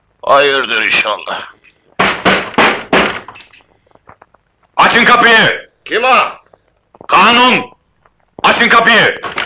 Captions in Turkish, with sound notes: Hayırdır inşallah! [Kapıya dipçikle vurma sesi] - Açın kapıyı! - Kanun!... Açın kapıyı!